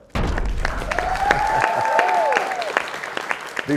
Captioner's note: crashing sound; applause